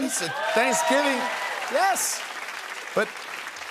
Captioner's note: cheers and applause